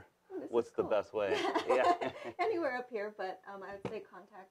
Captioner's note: laughs